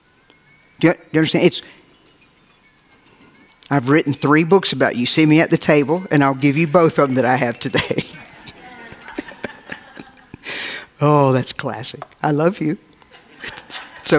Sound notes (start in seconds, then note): 8.1 cell phone rings; 9.9 laughing